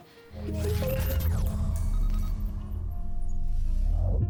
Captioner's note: quiet chimes